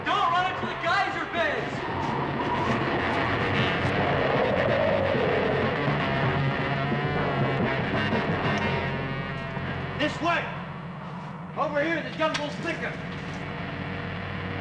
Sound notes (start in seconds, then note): 4.0 dinosaur roaring; 4.0 intense dramatic music